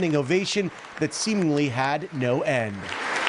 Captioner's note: applause